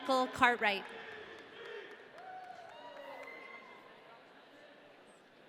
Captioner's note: audience cheering